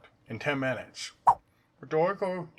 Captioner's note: swipe sound